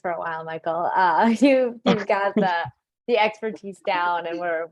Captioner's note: laughing